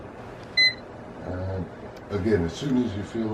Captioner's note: beep